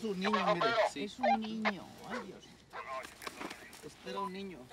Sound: man on radio speaks Spanish

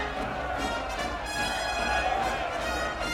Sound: all clamoring

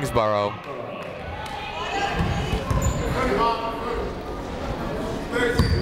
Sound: people shouting in the crowd

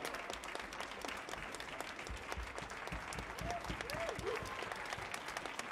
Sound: applause continues from audience and orchestra

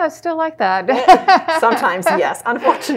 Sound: laughs

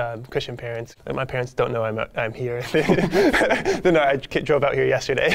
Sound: laughs

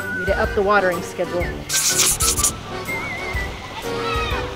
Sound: none

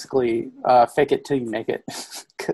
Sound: laughs

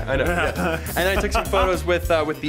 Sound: laughing

